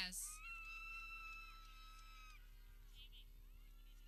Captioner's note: people cheering